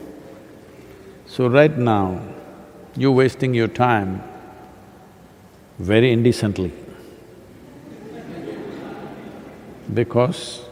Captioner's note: laughter